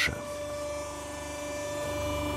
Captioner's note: loud whirring